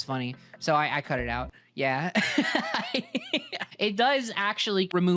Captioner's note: laughing